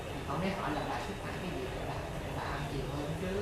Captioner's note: none